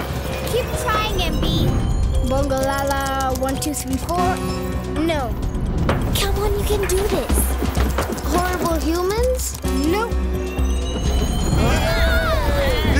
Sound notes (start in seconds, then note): 3.7 chimes; 9.6 chimes; 11.2 all shouting